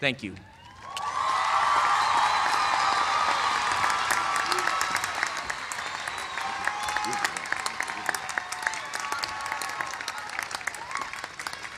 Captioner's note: cheers and applause